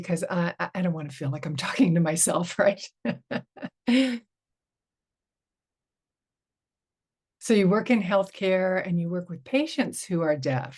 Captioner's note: chuckles